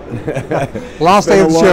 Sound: laughter

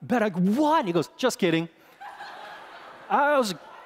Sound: congregation laughing

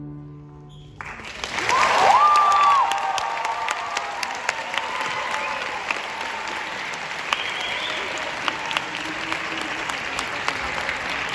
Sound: applauds

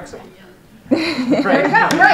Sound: laughter

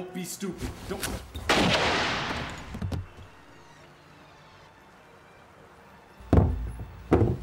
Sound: gunshot

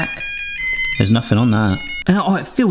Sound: timer beeping melodically

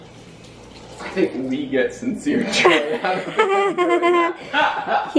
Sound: both laughing

